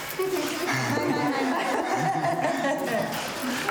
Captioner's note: laughs